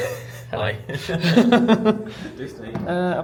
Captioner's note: laughs